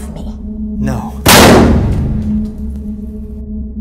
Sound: popping

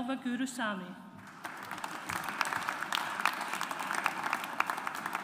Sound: audience applauds

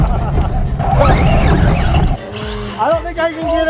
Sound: laughs; car whirs

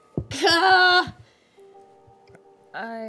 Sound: groans

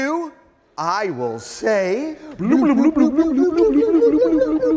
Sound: both blubbering

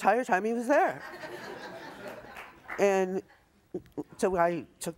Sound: audience laughs

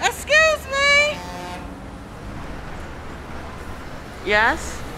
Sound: vehicle horn honking

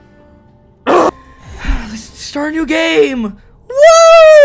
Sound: sigh

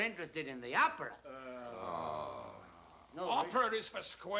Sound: all groan

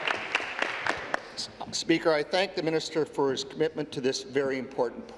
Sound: applause

